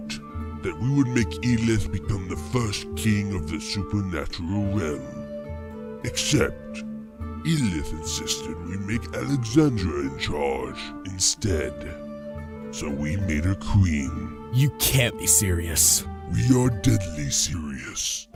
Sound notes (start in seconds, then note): none